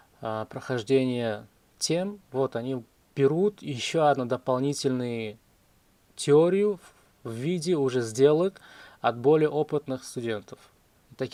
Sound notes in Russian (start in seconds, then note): none